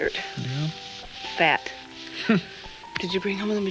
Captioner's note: chuckles